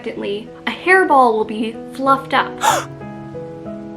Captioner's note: gasp noise